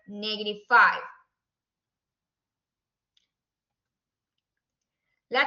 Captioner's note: silence